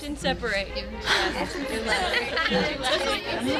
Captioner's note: laughing